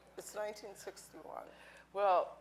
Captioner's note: none